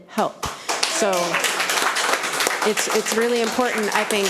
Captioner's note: audience applauding